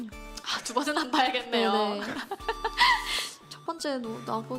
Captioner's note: laughter